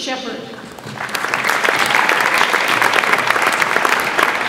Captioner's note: audience applauds